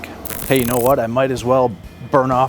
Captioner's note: static crackling